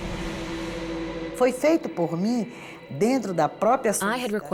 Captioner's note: speaking Portuguese